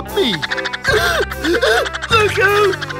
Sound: gasping

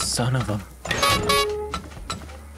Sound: honk

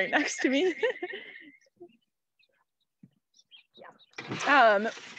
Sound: laughing

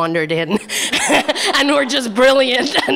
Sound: laughter

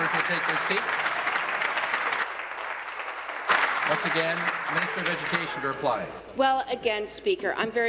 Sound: applause

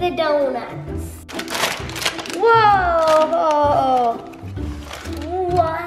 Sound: package crackling

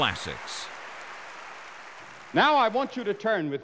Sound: applause

